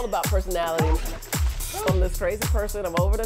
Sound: water splashes

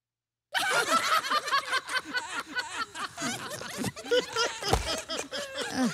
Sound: all burst out laughing

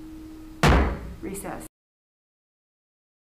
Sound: gavel thudding

